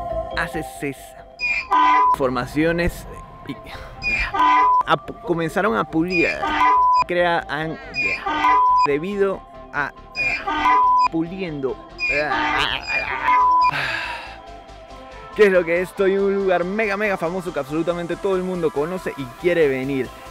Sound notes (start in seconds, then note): 12.5 sighs